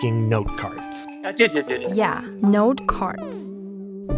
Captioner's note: speaking Mandarin